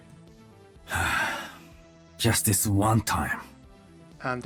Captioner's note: sighs